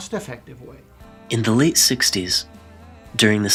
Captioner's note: voiceover